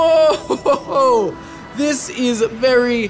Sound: laughter

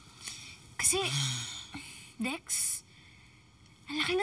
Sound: Dexter sighs

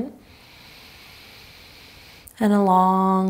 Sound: inhaling deeply

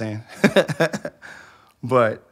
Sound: laughs

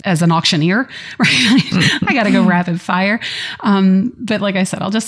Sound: laughter

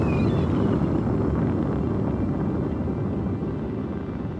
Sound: rocket engines roaring

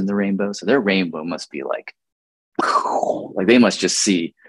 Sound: mouth pops

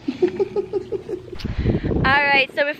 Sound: laughing

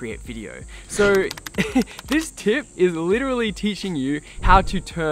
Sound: chuckles

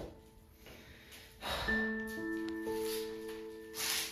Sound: beatty sighs

